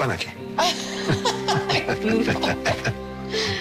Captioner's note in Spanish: Risas